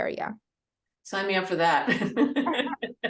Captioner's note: laughs